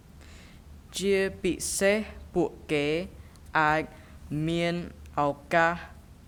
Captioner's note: speaking in a foreign language